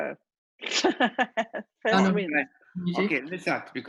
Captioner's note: laughter